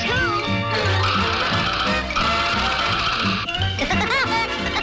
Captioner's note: Woody pecking; Woody laughing